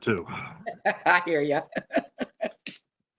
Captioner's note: laughs